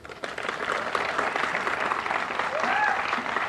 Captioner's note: applause